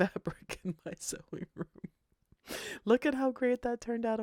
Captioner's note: laughs